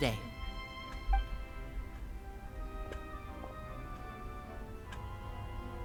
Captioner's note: door opens